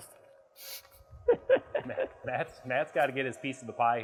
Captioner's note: laughing